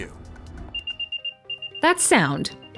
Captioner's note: beeping